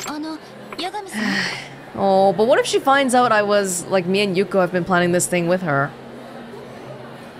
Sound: sighs

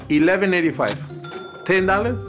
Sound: cash register dinging

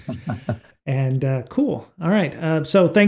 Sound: laughs

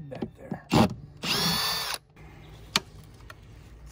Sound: drilling; click

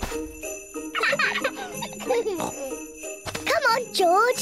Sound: both giggle

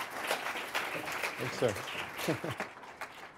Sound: applause

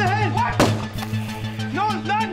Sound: gun shot

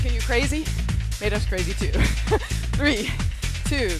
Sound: laughs

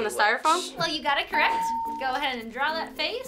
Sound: bell rings

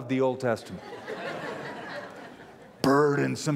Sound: laughter

